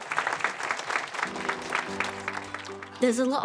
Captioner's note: applause